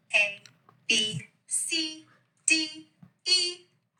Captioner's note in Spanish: Hablando en idioma extranjero